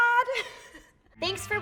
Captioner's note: laughing